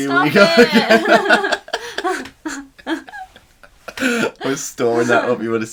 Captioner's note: laughing